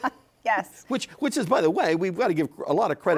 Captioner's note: laughs